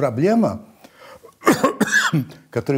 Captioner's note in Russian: кашляет